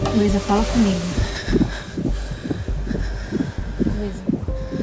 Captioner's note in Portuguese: respiração ofegante